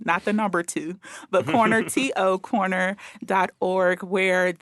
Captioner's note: laughing